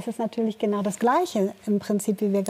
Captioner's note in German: none